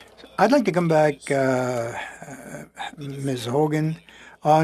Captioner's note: speaking French